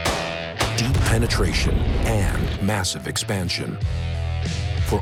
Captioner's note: voiceover